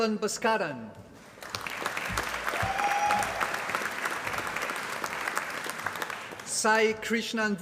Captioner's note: applause